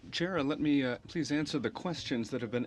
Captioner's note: speaking French